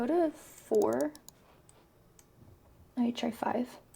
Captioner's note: mouse clicks